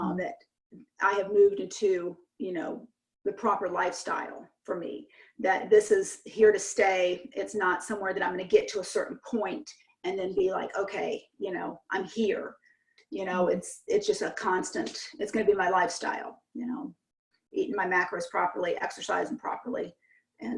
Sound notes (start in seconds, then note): none